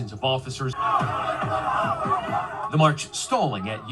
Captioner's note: crowd shouting